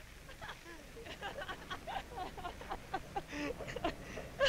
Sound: people laughing

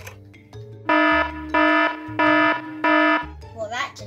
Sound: alarm sounding

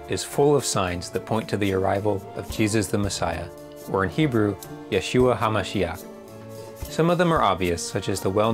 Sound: in Hebrew

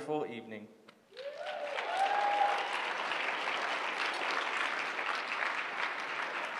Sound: applause

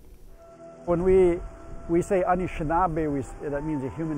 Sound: non-english

